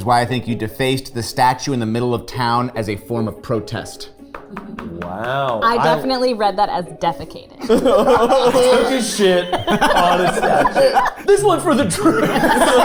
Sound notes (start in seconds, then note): 7.6 laughing; 10.6 group laughing